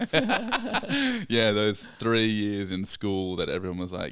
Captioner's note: laughing